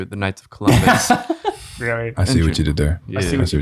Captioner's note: all chuckling